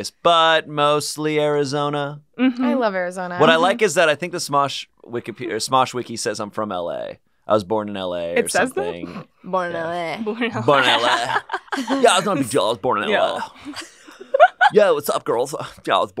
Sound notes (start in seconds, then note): 13.2 giggling